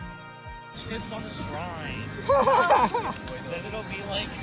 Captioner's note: laughter